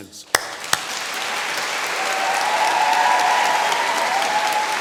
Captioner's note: applause and cheering